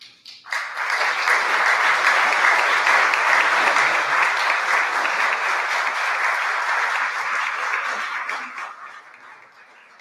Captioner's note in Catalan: aplaudiments